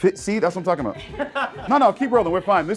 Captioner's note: laughing